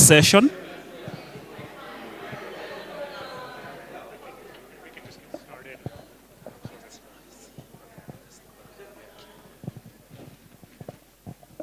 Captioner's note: crowd murmurs